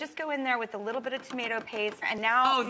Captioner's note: tomato paste clunking